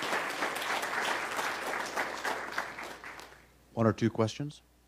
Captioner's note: applause